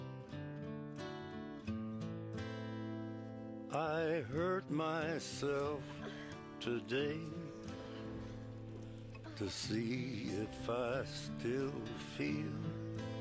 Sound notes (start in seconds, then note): 5.8 grunts Of Pain